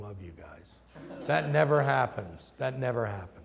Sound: laughter

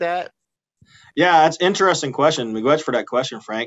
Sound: laughing

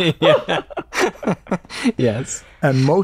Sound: laughter

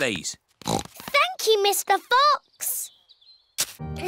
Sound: snorts

